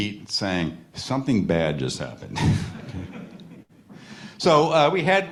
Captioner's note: chuckles